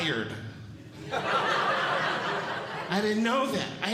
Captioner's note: audience Laughing